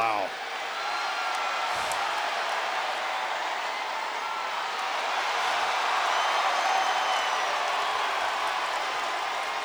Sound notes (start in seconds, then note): 0.0 crowd murmuring; 5.3 crowd cheering